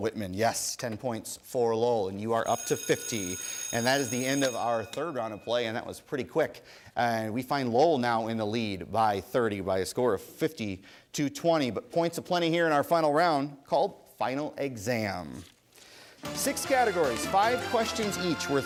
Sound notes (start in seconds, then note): 2.4 bell ringing